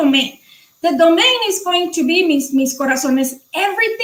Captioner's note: speaking foreign language